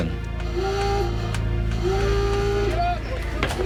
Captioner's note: alarm sounding